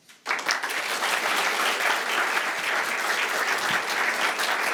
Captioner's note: attendees applauding